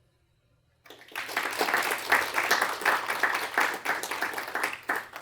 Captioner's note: applause